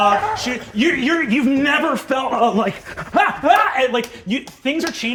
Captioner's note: screaming